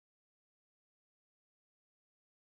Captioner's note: none